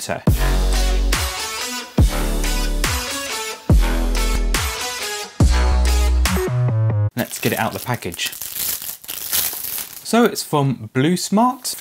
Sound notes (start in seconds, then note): 0.2 intro Sequence Music; 7.2 rustling